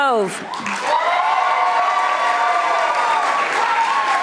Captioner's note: audience applauding